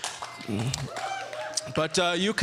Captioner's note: audience cheering